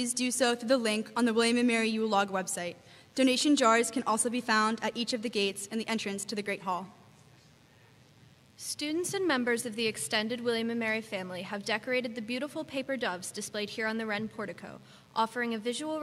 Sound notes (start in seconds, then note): none